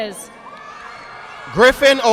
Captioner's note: audience clapping